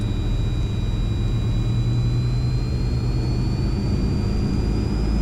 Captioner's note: plane engine revs